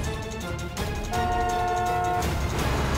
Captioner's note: honking